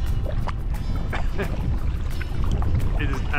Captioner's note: laughs